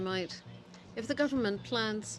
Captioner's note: speaking French